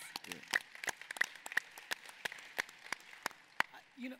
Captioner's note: clapping